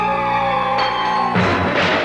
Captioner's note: metal clanging